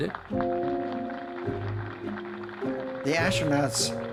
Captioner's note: crowd applauding